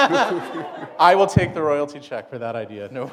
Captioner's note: laughter